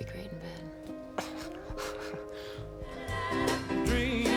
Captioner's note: laughs